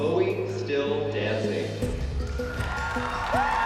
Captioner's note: audience cheering